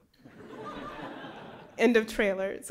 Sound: laughter

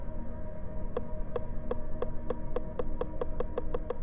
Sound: wheel clicks

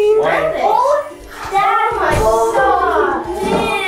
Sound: children chatter excitedly

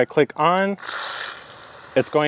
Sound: water spraying

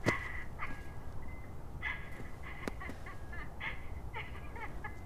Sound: recorded laughter continues

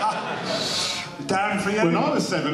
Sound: laughter

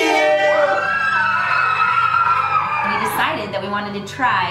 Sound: screams of enjoyment

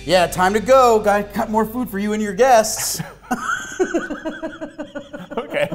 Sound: laughing

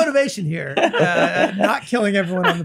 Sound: Glenn laughs

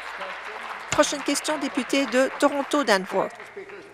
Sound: applause

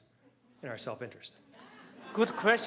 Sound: laughter

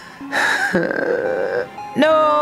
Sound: Steven groans

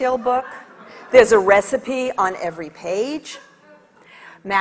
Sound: audience laughs

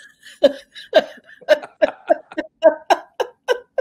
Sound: laughter

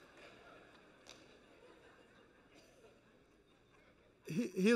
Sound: laughter

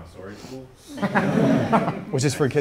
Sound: group laughs

